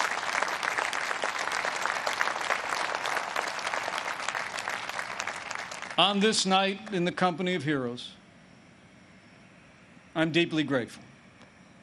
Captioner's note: applause